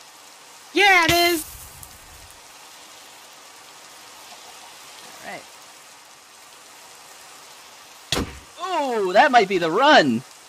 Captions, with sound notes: Yeah it is *fire noise* *Minecraft combat noise* Ooooh that might be the run!